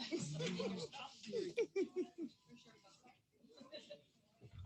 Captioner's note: laughing